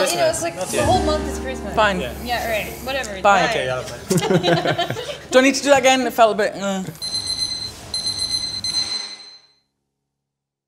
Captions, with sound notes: - Well you know the whole month is Christmas. - Fine. - Whatever. - Bye. (All laughing) Do I need to do that again? it felt a bit eeogh. (alarm beeping)